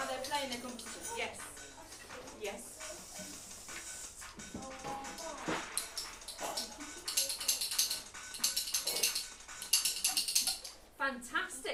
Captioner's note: children play